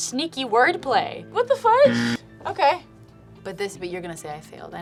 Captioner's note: buzzer rings